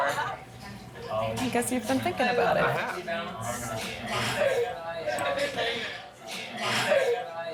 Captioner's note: chatter from other tables